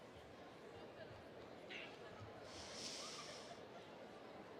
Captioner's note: audience chattering